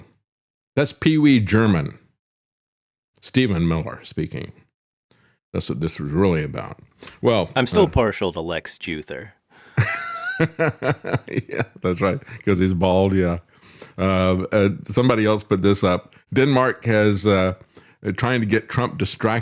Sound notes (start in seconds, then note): 9.8 laughs